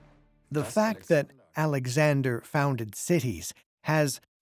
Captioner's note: in German